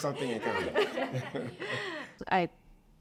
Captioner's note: group laughs